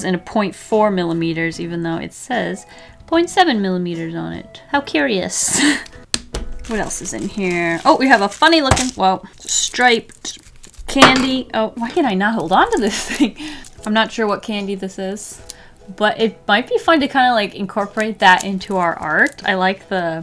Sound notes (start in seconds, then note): 8.7 drops candy